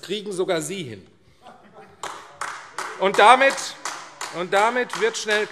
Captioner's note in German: Heiterkeit und Beifall AfD